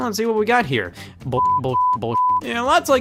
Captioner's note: beep